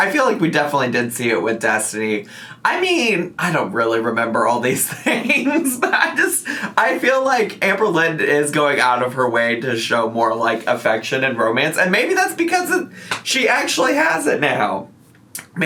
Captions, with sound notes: I feel like we definitely did see it with Destiny. I mean I don't really remember all these things (laughs), but I just feel like Amberlynn is going out of her way to show more like affection and romance, and maybe that's because of she actually has it now.